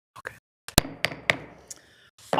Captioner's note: gavel taps